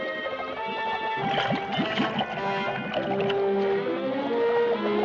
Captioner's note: water bubbling